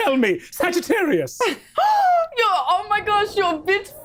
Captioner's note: gasps